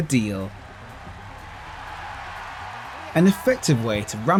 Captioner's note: applause